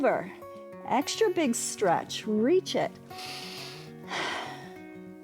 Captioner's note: inhales and exhales